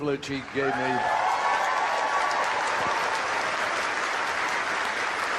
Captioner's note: crowd cheering and applauding